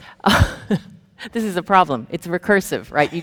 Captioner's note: chuckles